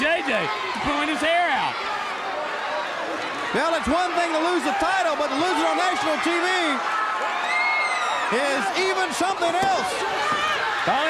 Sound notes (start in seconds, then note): 0.0 crowd cheering; 7.3 crowd cheering